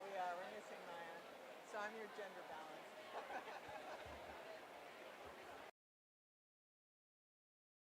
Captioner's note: background chatter